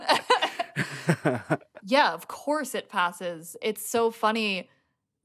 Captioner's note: laughter